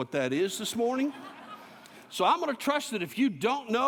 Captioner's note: laughter